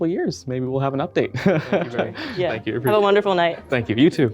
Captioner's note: chuckles